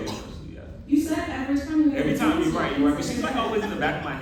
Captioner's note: laughter